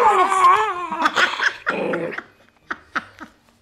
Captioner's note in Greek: Γέλιο